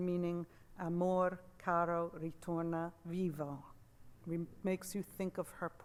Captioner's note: speaks in Italian